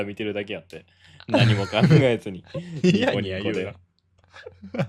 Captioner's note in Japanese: 笑い